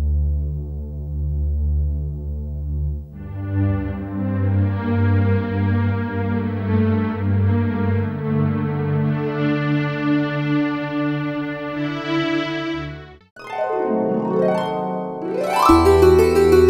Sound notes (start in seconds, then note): none